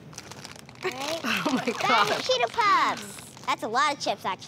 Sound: chuckles

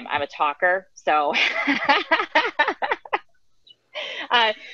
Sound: laughing

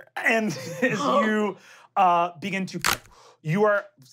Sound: cracking

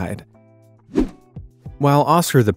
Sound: air whooshing

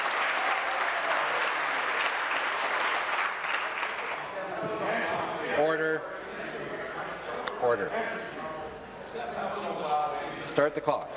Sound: applause

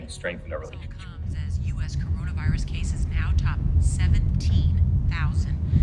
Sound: car radio

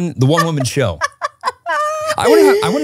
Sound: laughing

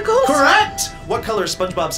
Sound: electronic bell chimes

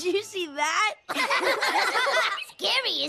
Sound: laugh

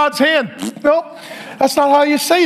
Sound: blows raspberries

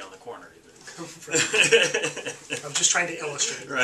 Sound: laughing

